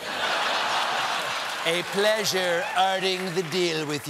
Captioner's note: laughter